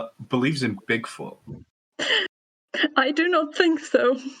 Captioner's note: laughs